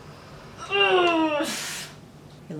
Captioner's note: grunts